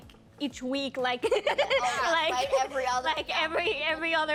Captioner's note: laughing